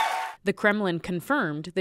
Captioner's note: cheering